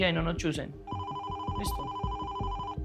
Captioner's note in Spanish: Suena el teléfono